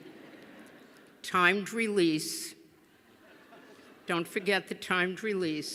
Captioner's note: laughter